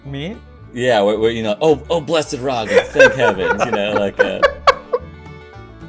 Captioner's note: laughter